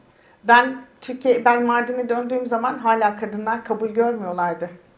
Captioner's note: speaks in Turkish